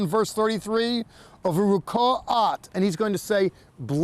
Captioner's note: speaking in Hebrew